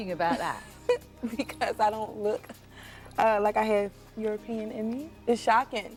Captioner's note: laughs